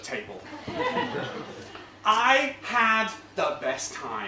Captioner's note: laugh